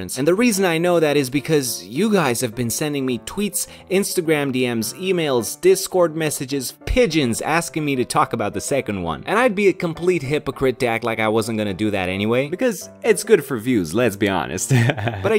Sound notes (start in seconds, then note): 14.7 laughs